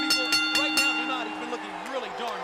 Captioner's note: bell ringing